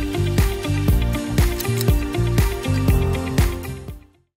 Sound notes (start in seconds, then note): 1.6 click